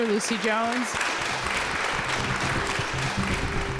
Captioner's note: applause; upbeat music